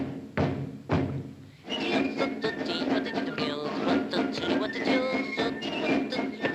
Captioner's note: fists pounding; military drum music; Popeye vocalizing